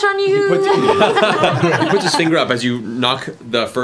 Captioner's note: laughter